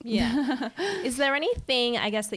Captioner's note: giggling